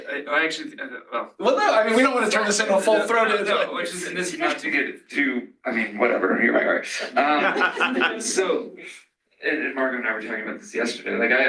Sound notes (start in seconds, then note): 7.4 laughter